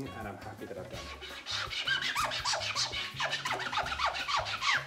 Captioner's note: squeaking